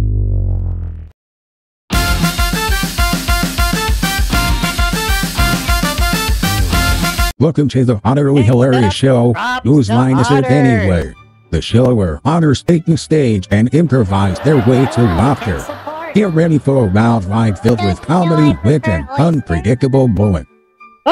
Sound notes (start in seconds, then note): 6.1 voiceover